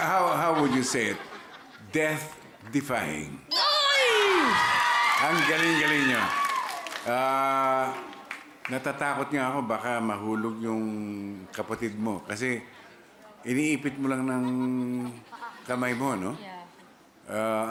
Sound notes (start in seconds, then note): 0.2 laughter; 3.5 cheering